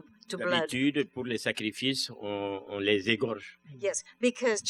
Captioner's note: speaking french